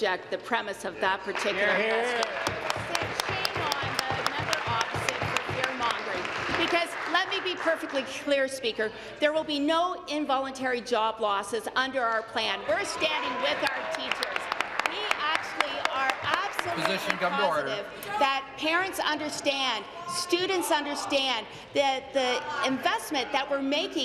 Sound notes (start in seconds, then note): 8.1 applause